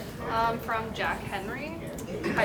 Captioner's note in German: Voice-over